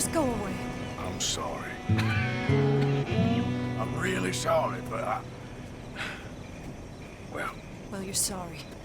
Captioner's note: coughs